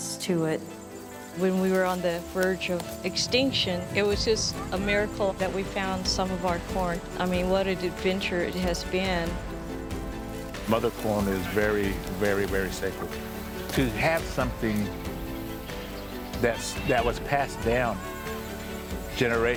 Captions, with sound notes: and there's just so much reverence to it. When we were on the verge of extinction it was just a miracle that we found some of our corn. I mean, what an adventure it has been. Mother corn is very, very, very sacred. To have something that was passed down generation